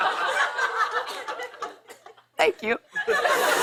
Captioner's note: laughter; laughter